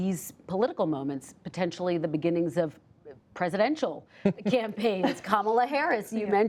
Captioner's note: laughter